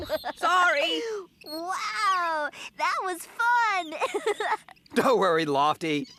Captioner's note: giggling